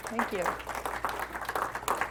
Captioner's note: applause